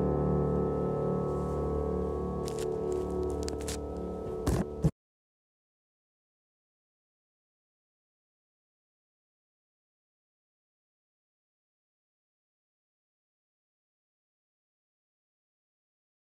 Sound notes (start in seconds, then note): 5.3 silence during transition to live